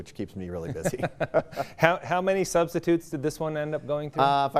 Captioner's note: laughing